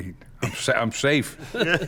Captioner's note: laughing